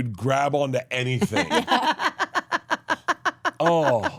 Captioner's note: laugh